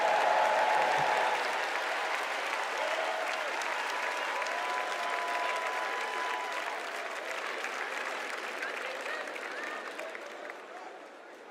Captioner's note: cheers and applause